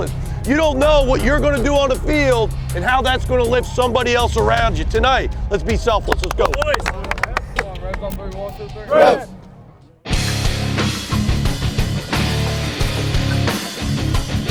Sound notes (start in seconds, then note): 6.0 claps; 9.4 hard rock guitar